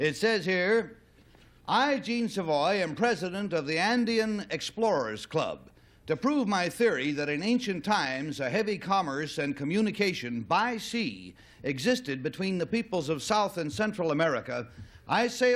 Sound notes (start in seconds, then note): none